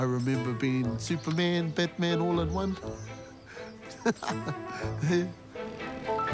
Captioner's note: chuckles